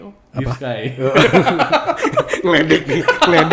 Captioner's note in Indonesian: ketawa